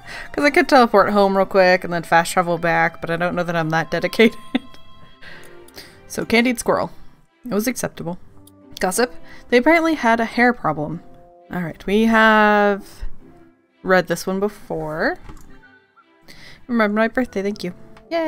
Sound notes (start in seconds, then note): 4.9 laughs